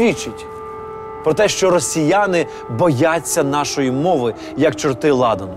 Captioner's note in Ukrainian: звук повітряної тривоги